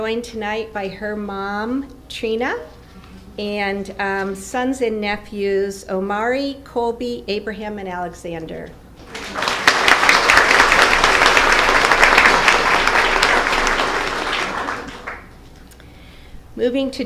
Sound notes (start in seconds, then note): 11.6 applause